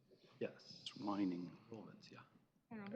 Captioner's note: indistinct chatter